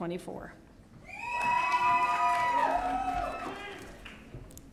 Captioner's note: audience cheering